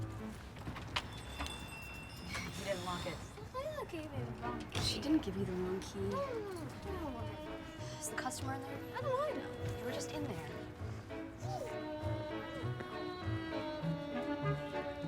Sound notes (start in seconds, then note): 0.6 door opens; 13.0 Dottie mumbles; 14.8 bouncy music